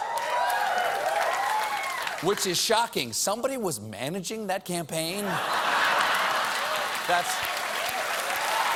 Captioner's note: cheering and applause; laughter